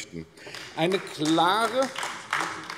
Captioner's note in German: Beifall AfD